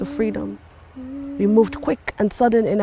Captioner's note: soft humming